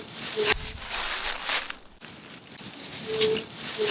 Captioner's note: creature hooting